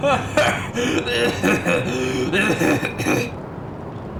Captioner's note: choke; hack